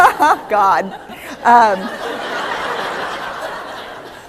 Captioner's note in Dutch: Gelach